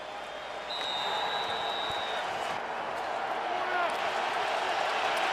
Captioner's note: whistle